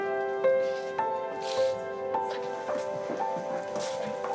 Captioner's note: sniffles